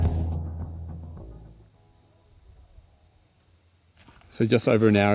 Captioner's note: crickets chirping